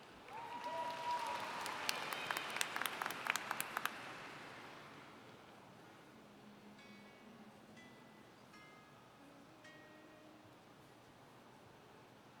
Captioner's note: applauding